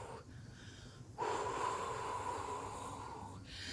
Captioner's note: exhale